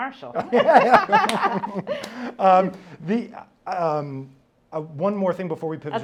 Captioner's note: laughing; claps